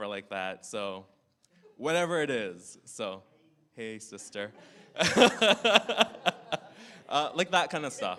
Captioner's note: laughter